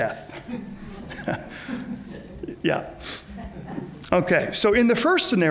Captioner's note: laughs